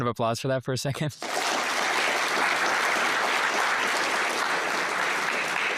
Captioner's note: applause